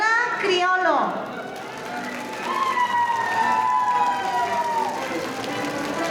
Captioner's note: audience cheering; crowd cheering